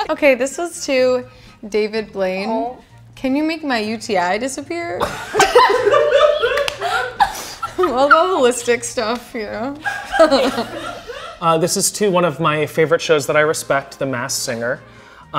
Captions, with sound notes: - Okay, this was to David Blaine. "Can you make my UTI disappear?" (all laughing) All the holistic stuff, you know (giggles). (girls laughing) - This is to one of my favorite shows that I respect, "The Masked Singer",